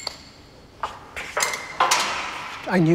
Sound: clanging

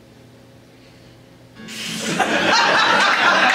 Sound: audience Laughing

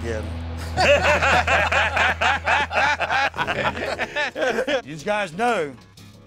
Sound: laughter

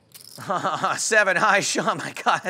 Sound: laughing

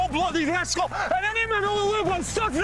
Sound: stewart with scottish accent

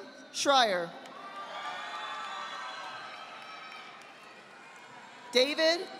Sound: audience applauding

